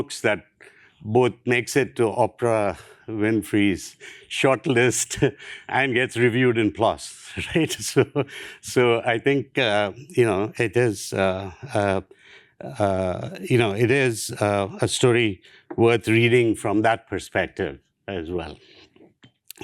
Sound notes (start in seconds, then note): 7.5 laughs